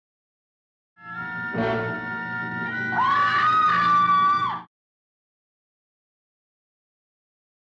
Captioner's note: person screaming; suspenseful music